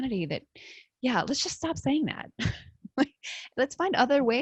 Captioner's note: laughs